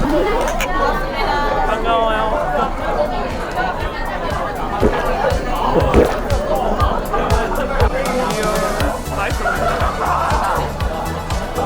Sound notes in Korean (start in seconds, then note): 4.3 꿀떡꿀떡